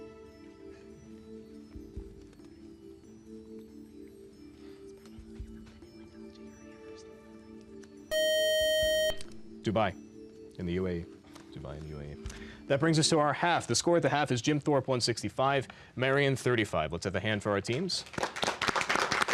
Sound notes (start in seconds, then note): 3.7 whispering; 8.1 time up buzzer; 17.6 applause